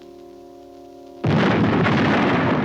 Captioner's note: canon bangs; dramatic music